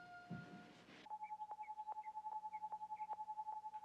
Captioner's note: test pattern humming on television